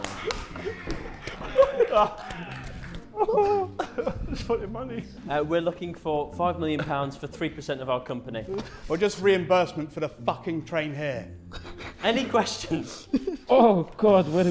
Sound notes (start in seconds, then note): 0.0 Sidemen laughing; 12.6 Sidemen laughing